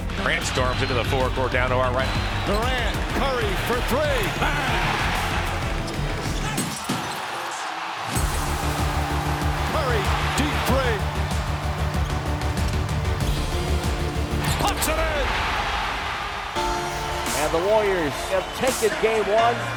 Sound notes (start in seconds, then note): 5.3 crowd cheering; 6.4 dramatic electronic music; 15.5 crowd cheering